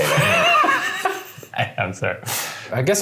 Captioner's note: laughing